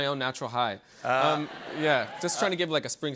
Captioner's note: laughter